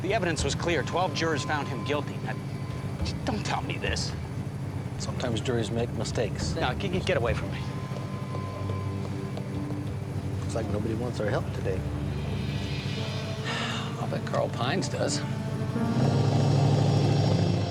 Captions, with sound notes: The evidence was clear, 12 jurors found him guilty. Don't tell me this. - Sometimes juries make mistakes. - No, get away from me. - Looks like nobody wants our help today. - (sighs) I'll bet Carl Pines does.